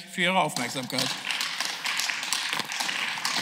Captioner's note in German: Beifall